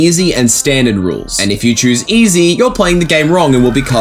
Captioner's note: hellish screaming